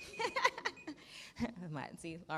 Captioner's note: laughs